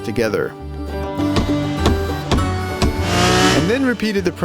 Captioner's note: hammering